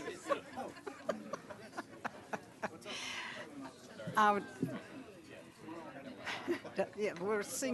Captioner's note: laughter